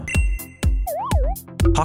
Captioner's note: Animal Crossing SFX